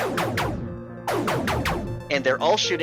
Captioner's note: in-game ships shooting